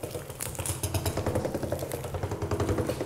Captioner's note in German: Rumpeln, Knistern